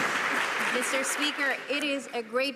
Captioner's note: some Applause